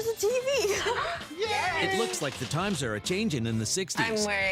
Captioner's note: cheering